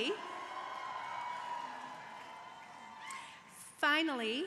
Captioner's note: crowd cheering